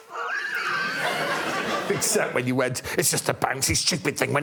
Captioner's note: laughter